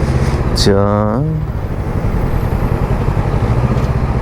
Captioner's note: humming